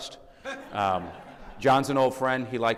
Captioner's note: audience laughing